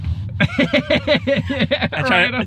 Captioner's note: laughs